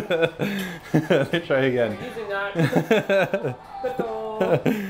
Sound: laughs

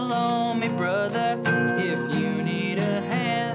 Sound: timer dinging

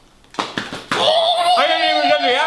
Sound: squealing

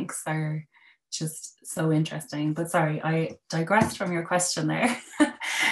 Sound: laughter

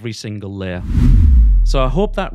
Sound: screen swooshing

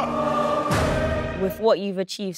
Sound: locker slams

